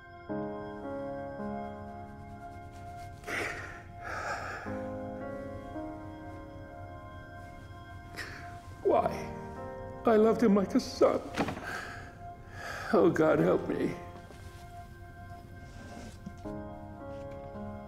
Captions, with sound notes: (sobbing) - Why? I loved him like a son. Oh, God, help me.